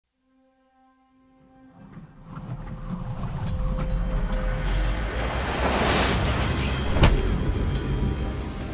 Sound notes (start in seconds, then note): 2.3 eerie wind blows; 6.9 Kah'Nath thuds